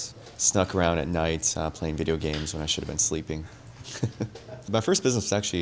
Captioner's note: laughs